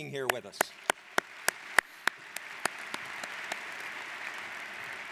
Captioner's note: audience applauds